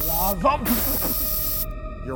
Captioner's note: coughing